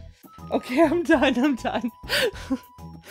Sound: normal voice; laughs

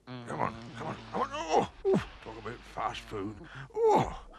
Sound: grunts

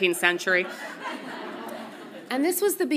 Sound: audience laughs softly

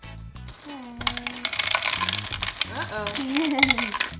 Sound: plastic pattering

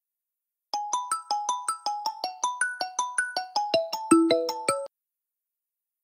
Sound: mobile is ringing

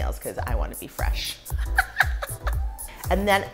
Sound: laughing

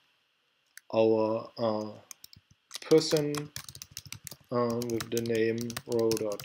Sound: typing

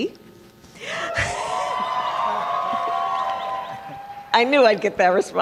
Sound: applause

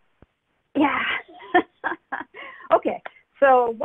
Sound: laughs

